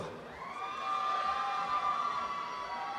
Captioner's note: applause and cheering